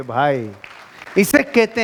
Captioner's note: round pof applauses